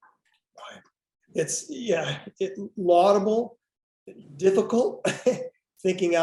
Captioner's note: laughs